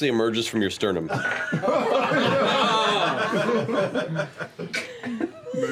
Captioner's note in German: Gelächter